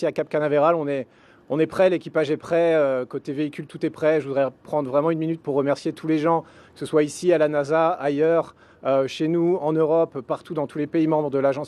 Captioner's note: speaking french